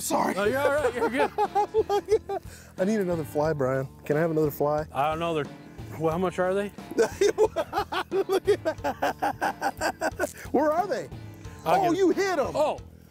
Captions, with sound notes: -No, you're alright, you're good. -I need another fly, Brian. Can I have another fly? -I don't know, they're.. well.. How much are they? -[laughs] Where are they? Oh, you hid them!